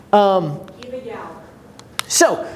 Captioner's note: voice muffled